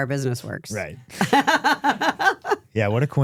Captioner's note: Steph laughing